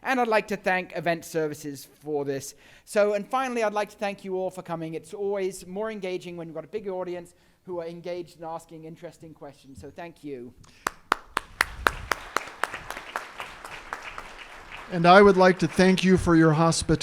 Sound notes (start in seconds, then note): 10.7 audience clapping